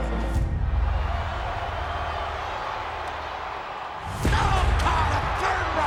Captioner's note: crowd murmuring